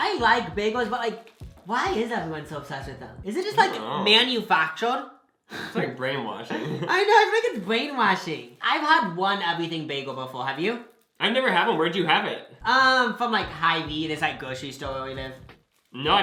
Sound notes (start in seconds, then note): 5.8 laughs